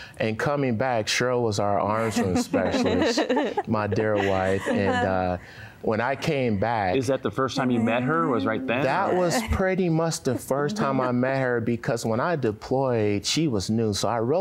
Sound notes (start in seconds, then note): 2.0 laughter